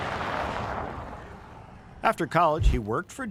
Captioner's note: car engine whirring